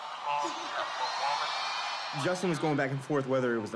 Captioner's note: crowd cheering